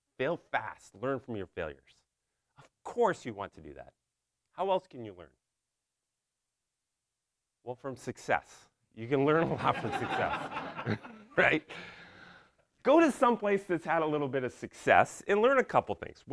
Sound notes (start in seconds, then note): 9.4 audience laughs